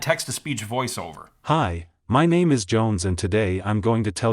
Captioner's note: male TTS Voice